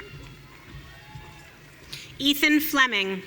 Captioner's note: audience cheering